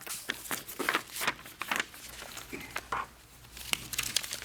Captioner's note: papers rustling